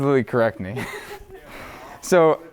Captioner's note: laughs